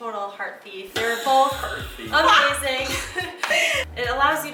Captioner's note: laughs